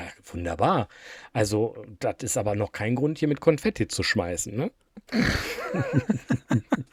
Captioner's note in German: räuspern; gelächter